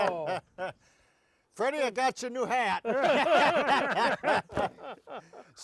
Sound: all laughing

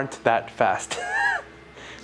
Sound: laughs

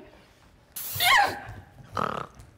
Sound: Zina loudly shrieks; Sharik lightly snorts

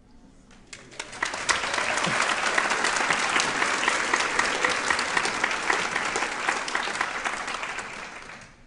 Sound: applause

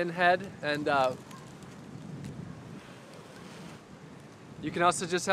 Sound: blows the seeds

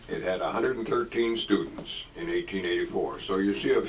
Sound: none

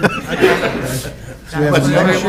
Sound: people chuckling

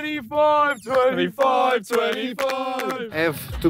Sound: clapping

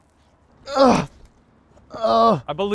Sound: groaning

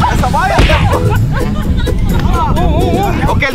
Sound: laughing

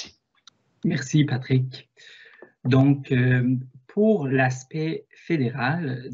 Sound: speaks in foreign language

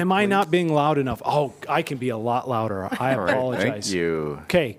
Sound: laughter

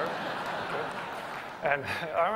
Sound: laughter

